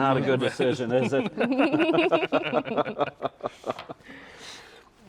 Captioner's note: all laughing